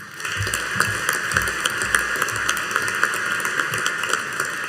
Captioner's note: audience applauding